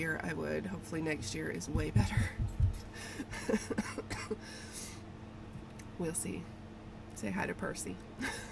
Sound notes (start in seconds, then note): 3.4 coughs